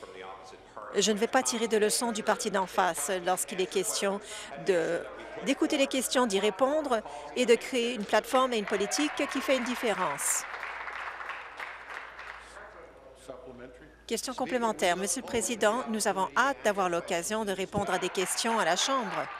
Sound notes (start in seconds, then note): 14.2 applause